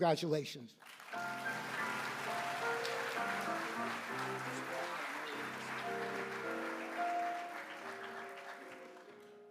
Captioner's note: applause